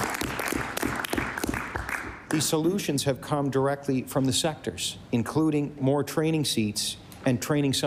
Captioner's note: applause